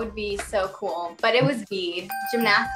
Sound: bell dings

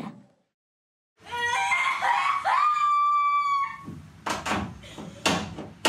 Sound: screaming and crying

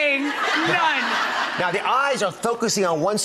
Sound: laughing

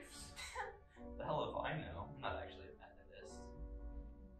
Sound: laughs

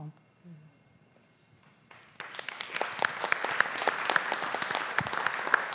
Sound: applause

